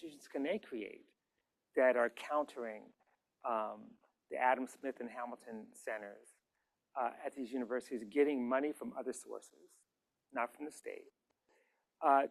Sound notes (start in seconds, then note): none